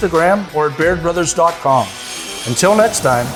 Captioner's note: saw revving